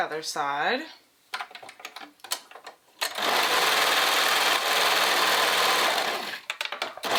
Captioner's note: sewing machine whirring; switch clicking